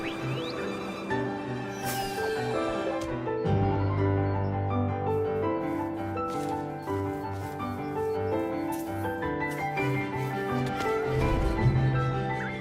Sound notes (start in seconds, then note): 0.0 upbeat music continues; 0.2 falling item whistles; 5.6 grass rustles; 8.4 upbeat music continues